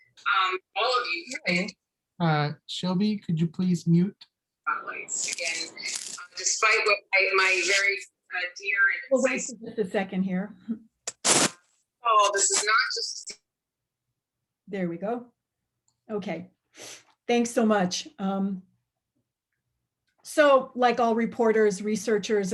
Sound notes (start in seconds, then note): 10.4 background noise ends